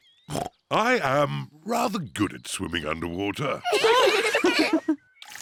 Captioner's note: oinks; all laugh